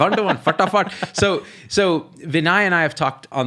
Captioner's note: laughing